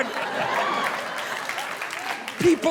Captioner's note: audience laughing